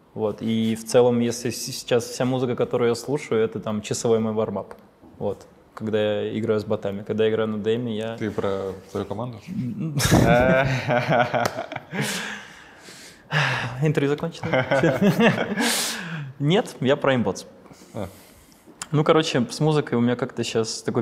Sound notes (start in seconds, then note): 9.6 laughs